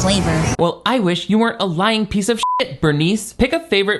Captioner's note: beep